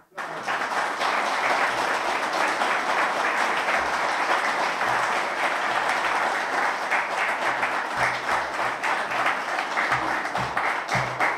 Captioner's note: applause